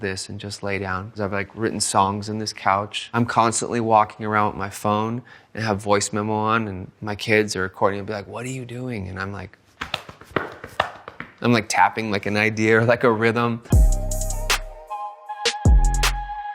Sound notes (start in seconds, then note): 9.8 tapping legs; 13.7 upbeat music